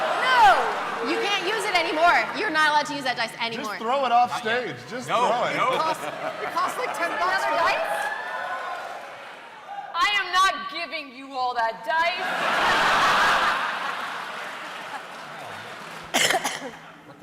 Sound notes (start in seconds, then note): 6.2 cheering; 12.2 laughter